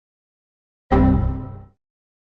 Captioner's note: windows error sound